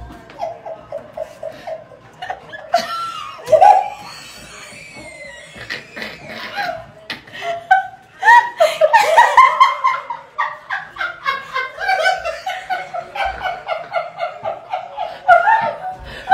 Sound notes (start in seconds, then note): 2.5 laughter